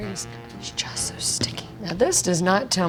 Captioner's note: whispering